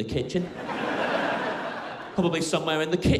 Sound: crowd laughing

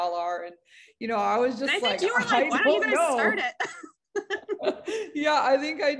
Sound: laugh

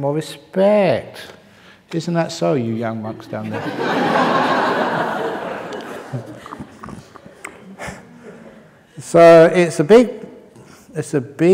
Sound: laughter

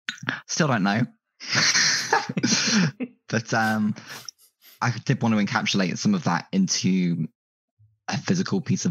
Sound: laughs

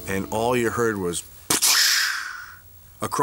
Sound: imitates beer can opening

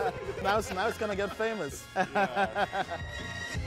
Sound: laughs; triumphant jazz music

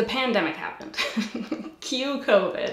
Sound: giggles

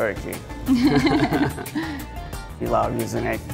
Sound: both laugh

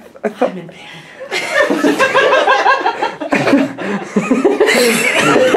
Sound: everyone laughing

